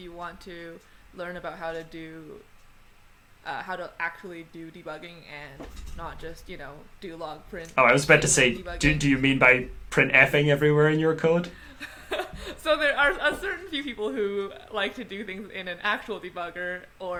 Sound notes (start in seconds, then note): 11.4 laughs